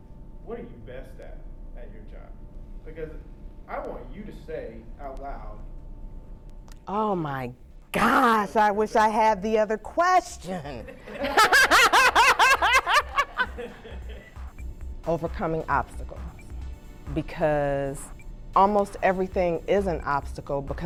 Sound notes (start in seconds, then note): 10.7 laughter